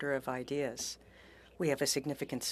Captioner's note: speaking French